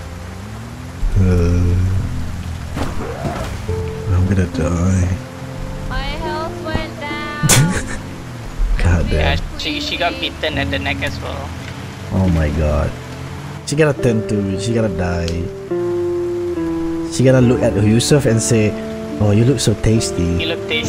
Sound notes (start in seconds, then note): 1.0 groans